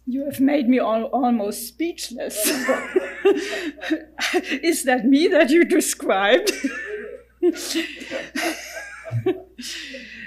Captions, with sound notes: - You have made me almost speechless. (laughing) Is that me that you described? (laughing)